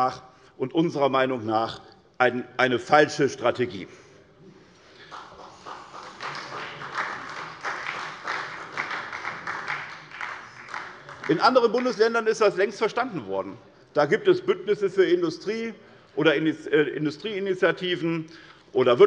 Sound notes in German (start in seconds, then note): 4.9 Beifall bei der SPD